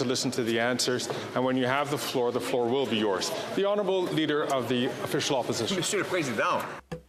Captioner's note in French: voix de l'interprète